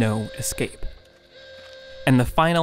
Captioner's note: sirens ringing